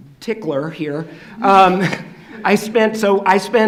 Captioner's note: laughing